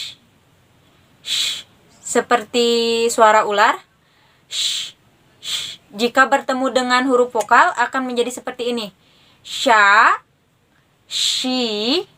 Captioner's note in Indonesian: sshhh